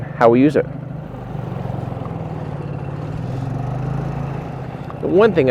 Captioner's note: boat engine purring